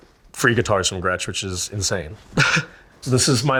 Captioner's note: chuckles